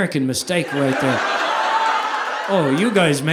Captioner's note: audience laughing